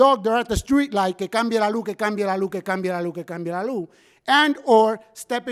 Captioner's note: speaking in foreign language